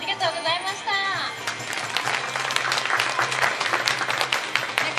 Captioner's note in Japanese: 拍手